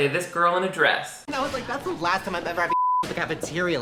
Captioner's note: beep